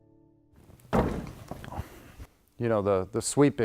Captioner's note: thumping